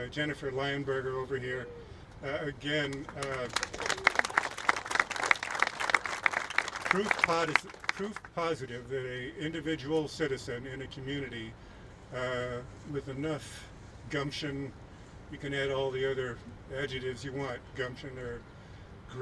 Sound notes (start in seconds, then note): 2.8 applauding